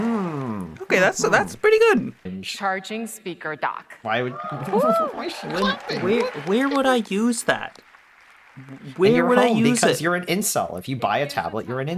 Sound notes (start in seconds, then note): 4.1 audience applauding; 4.4 claps